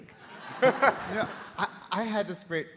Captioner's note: audience laughing